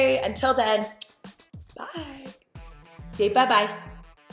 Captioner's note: kiss